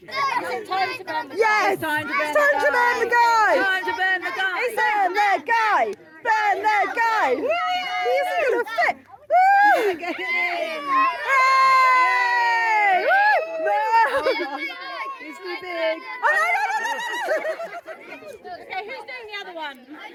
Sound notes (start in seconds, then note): 13.2 cheering; 16.2 laughing